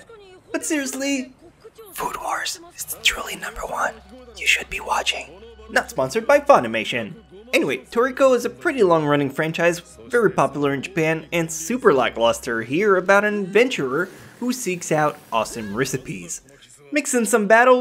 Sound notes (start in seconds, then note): 1.9 whispers